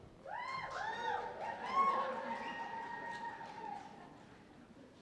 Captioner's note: cheers and applause